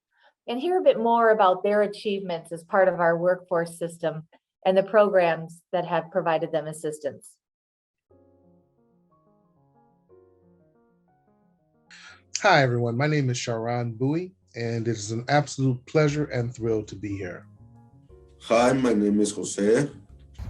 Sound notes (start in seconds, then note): 7.8 silence